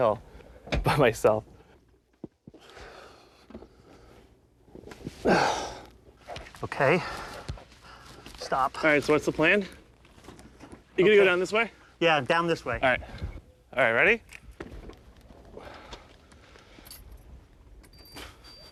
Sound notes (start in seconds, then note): 4.2 grunting